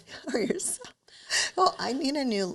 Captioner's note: chuckles